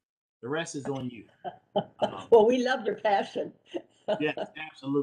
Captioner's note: laughter